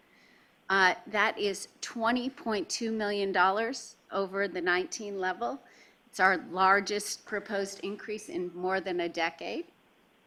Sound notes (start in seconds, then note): none